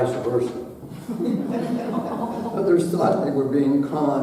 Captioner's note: audience laughing